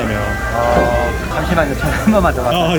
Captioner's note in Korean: 전화 벨소리